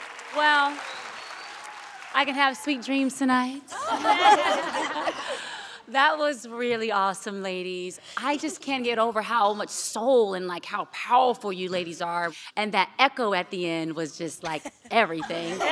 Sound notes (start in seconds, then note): 0.0 crowd cheering; 3.7 laughing